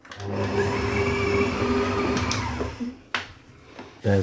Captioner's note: machine whirring